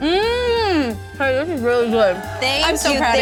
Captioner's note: moaning; crowd cheering